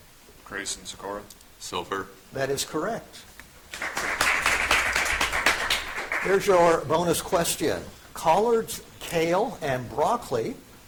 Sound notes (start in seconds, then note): 3.7 audience applauds